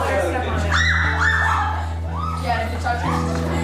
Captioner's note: screaming